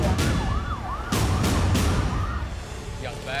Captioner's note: siren wailing